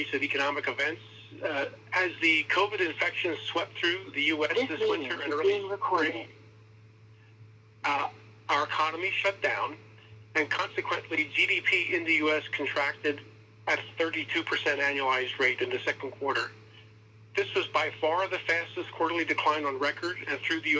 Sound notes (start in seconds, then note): 4.8 computerized voice of "this meeting is being recorded."